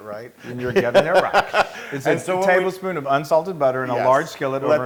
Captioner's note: laugh